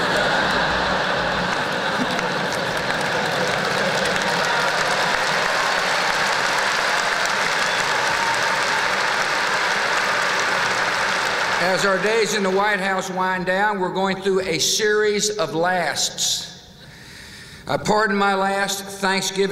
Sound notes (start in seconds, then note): 0.0 laughter; 2.2 applause